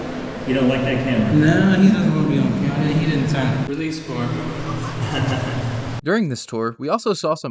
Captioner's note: laughs